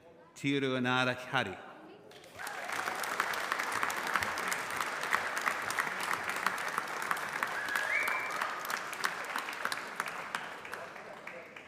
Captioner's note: applause